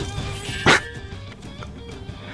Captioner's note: laughs to myself; inhales Oxygen